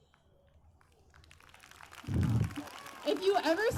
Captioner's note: applause